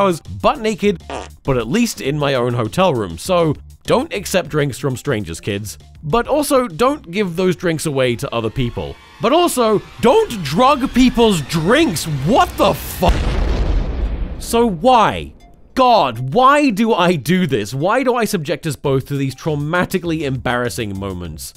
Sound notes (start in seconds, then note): 1.0 fart; 15.1 boom